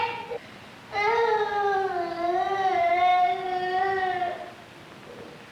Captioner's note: crying